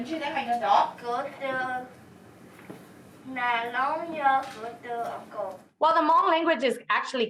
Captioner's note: student speaking Hmong